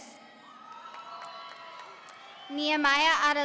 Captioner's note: audience cheering